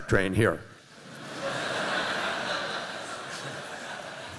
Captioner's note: laughter